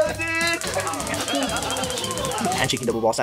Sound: laughter

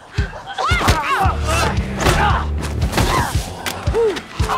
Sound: man grunts

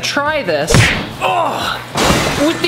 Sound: groans

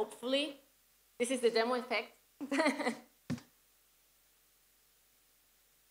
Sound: laugh

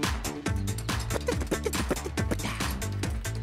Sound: beat-boxing

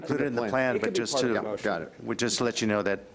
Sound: overlapping chatter

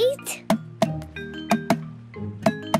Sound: tapping

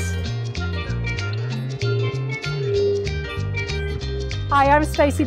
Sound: crystal bowl ringing

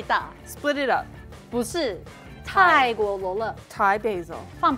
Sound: speaking in mandarin

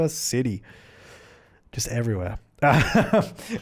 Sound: laughing

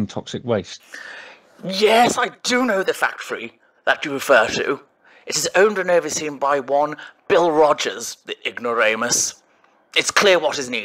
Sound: inhales

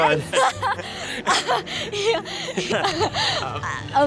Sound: laughing

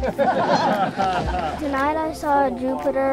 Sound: laughter from crowd

